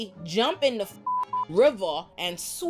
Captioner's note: beep